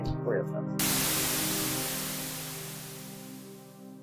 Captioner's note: static hissing